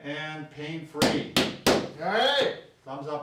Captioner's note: slaps